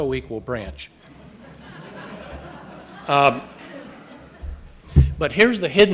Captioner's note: audience laughing